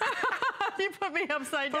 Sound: laughter

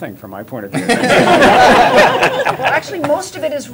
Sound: laughter

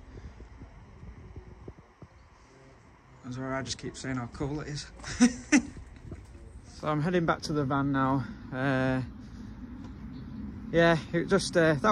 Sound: laughing

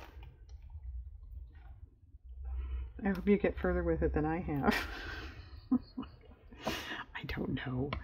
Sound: laughs

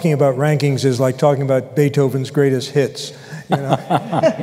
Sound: laughter

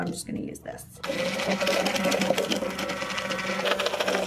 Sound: mixer whirring

